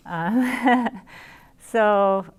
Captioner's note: chuckles